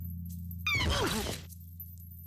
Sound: groaning

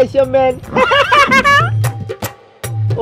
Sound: laughing

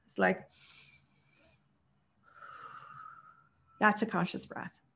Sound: breathing in and out

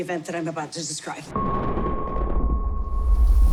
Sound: thunder rumbling

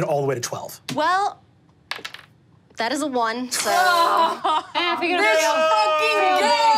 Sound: laughing

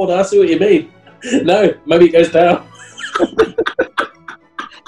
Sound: chortling; laughing

